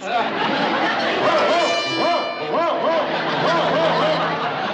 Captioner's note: mimics dog barking